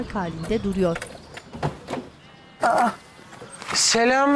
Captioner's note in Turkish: Kapı açılma sesi